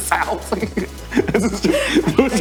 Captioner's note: laughing